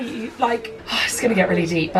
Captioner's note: sighs